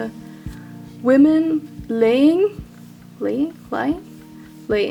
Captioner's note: none